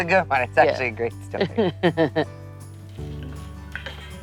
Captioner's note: laugh